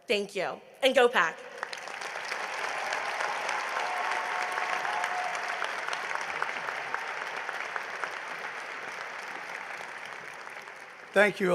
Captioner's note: applause